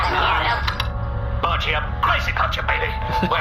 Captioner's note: plays voicemail; romantic music playing